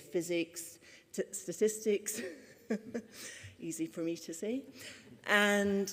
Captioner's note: chuckles